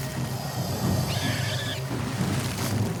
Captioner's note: pig squeals